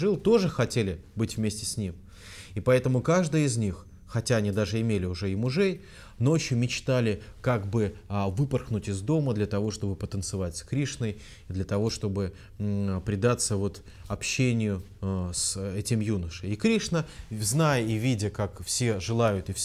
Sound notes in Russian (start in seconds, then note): none